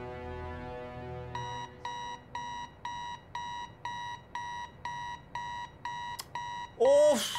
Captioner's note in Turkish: Alarm Çalıyor